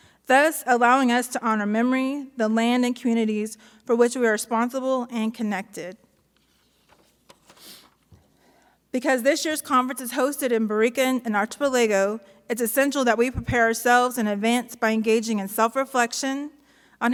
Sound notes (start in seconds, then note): none